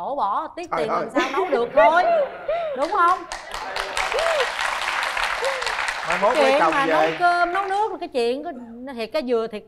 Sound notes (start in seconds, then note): 2.7 applause